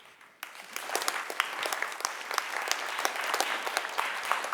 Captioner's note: crowd applauding